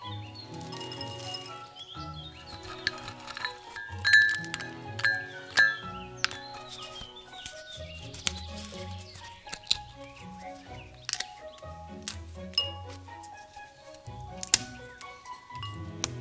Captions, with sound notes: *clinking* Dried Ginger Root *rubbing* *roots crack and snap*